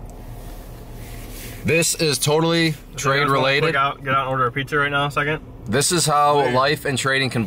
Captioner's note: none